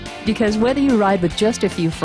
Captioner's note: voiceover